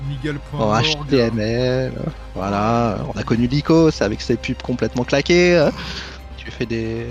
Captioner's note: laughs